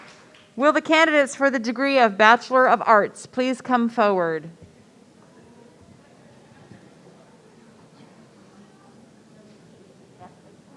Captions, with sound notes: Will the candidates for the degree of Bachelor of Arts please come forward. (audience murmuring)